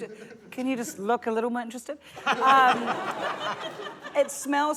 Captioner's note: laughter